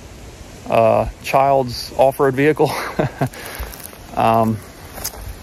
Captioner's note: laughs